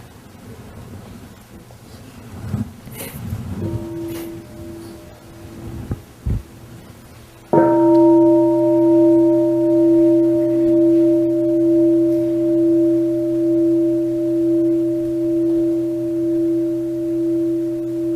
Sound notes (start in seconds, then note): 3.6 sound of the bell